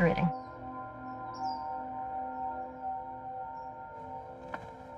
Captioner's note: birds chirping